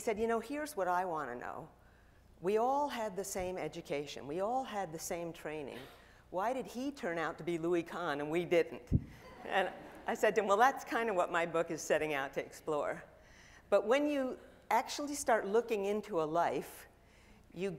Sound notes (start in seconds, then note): 9.2 audience laughing